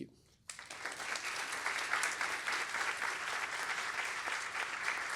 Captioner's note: applause